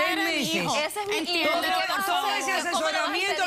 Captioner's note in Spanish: Ambas hermanas discuten